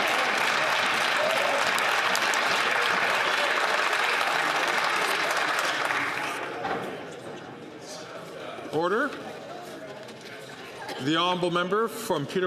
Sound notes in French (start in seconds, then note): 6.7 applaudissements